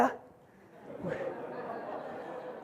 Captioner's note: audience laughs